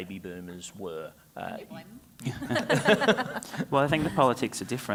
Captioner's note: panel laughs